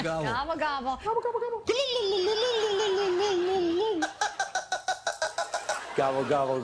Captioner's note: gobbling